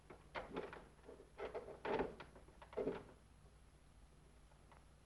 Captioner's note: doorknob rattles